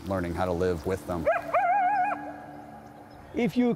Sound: howling

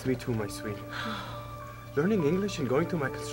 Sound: Veronica sighs

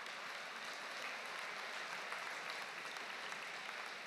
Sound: applause

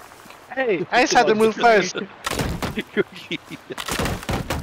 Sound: laughter

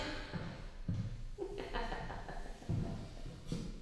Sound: laughing

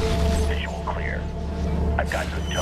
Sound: radio

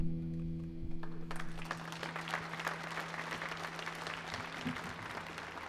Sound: audience applauds

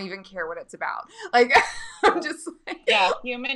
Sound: laughing

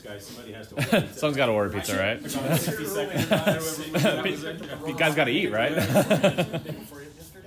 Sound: laughter

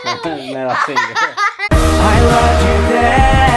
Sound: chuckling

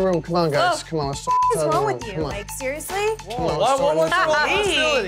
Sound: beep

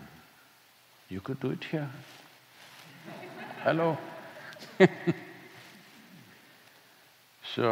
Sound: laughter; laughs

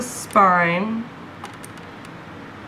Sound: clipping

